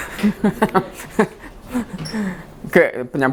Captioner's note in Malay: ketawa